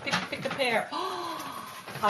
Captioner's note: gasp